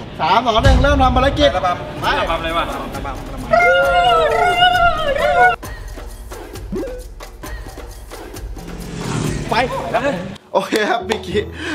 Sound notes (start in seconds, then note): 3.5 sings; 3.5 yelling